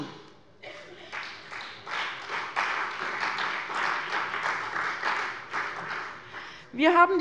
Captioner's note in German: Beifall bei der CDU und dem BÜNDNIS 90/DIE GRÜNEN